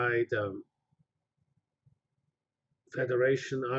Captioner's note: pause